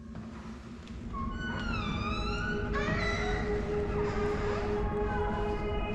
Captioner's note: door squeaks open